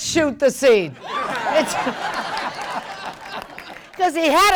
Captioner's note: attendees laughing